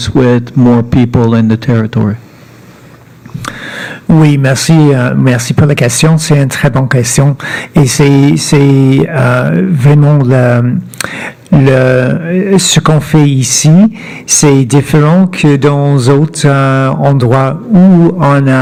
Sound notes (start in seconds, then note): 4.3 speaking French